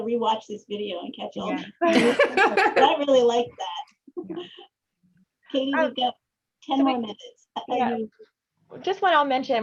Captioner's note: laughter